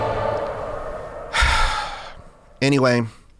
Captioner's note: sighs